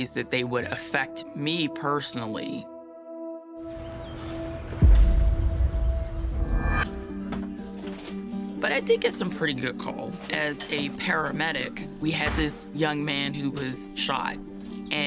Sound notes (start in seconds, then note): 5.2 door thuds; 7.0 bright music